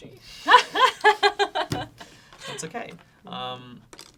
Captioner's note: laughs